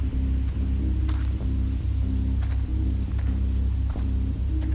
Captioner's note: footsteps crunch